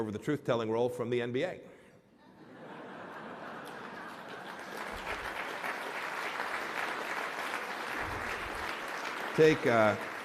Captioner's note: laughter and applause